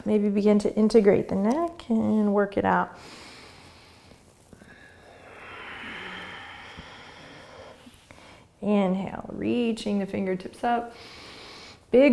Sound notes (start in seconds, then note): 3.0 inhaling; 4.5 exhaling; 11.0 inhaling